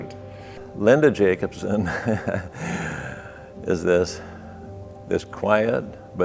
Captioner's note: laughs